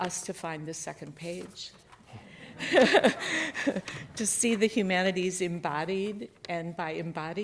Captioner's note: chuckles